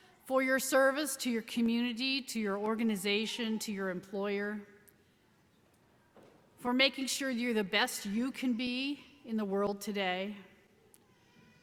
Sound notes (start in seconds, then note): none